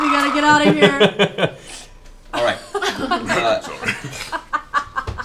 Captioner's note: laughing